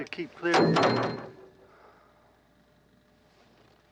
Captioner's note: reel banging